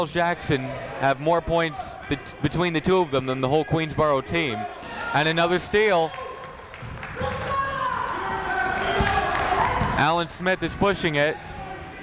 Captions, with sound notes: Jackson have more points between the two of them then the whole Queensborough team. And another steal (chatter) Alan Smith is pushing it.